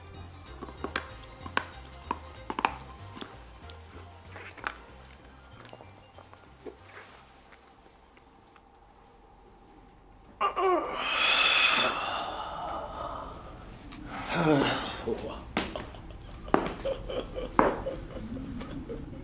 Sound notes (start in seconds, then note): 0.4 crunches, swallows pills; 10.3 sighs; 15.0 laughs dryly, taking footsteps